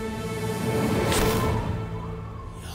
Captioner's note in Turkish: Ok saplanma sesi